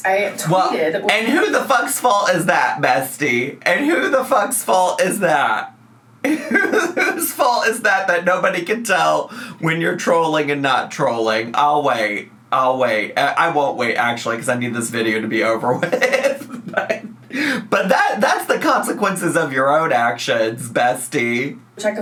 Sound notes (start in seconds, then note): 6.2 laughs; 15.4 laughs